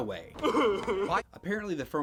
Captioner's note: sobbing